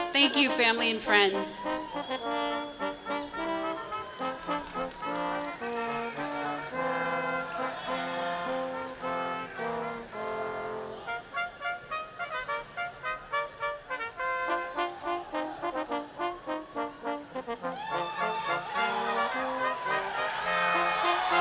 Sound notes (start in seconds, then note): 3.3 upbeat orchestral music continues; 8.0 people cheering distantly; 13.2 upbeat orchestral music continues; 17.6 people cheer